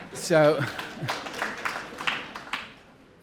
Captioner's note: applause